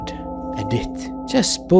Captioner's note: flatly